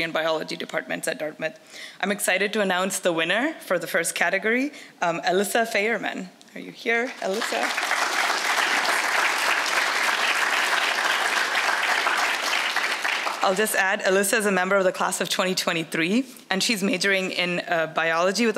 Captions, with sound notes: and biology departments at Dartmouth. I'm excited to announce the winner for the first category, Alyssa Faerman. Are you here, Alyssa? (audience applauds) I'll just add, Alyssa is a member of the class of 2023 and she's majoring in biology